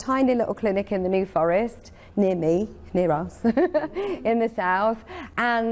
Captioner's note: laughing